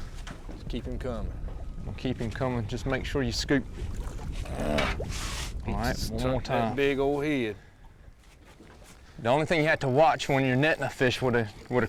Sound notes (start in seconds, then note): 4.5 groaning